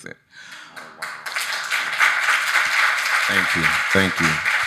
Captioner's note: audience applauding